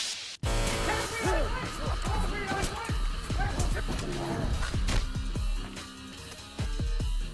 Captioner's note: muffled fighter screams